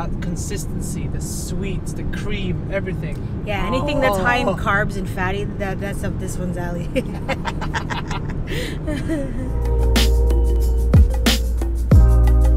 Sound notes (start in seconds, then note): 6.9 both laugh; 9.4 upbeat music